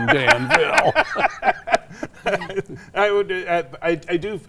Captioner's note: both laughing